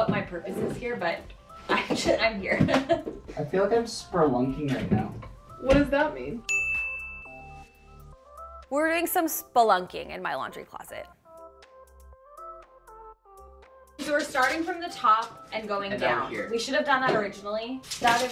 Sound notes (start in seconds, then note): 6.4 bell dinging